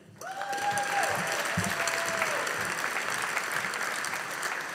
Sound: audience applauding

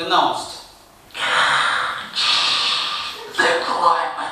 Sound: Darth Vader like breathing

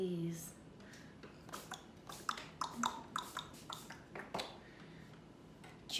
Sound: imitates horse trotting

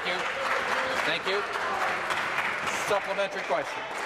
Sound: applause

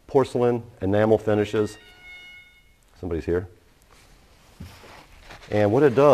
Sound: door chime somebody's here

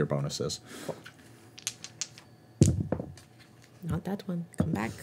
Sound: dice clacking

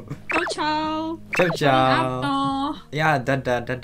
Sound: German

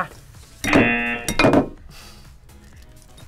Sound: buzzer rings

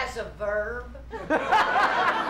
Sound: laughter

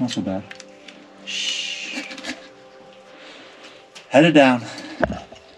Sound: shushes

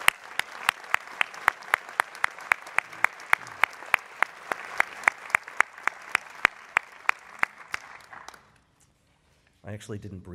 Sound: applause

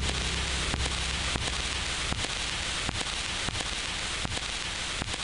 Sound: static buzzing

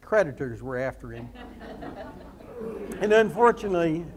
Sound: audience laughs

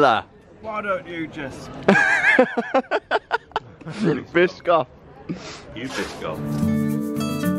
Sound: laughter

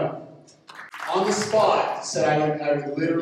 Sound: audience clapping

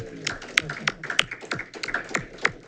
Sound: clapping

